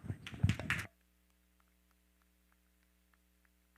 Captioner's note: all applauds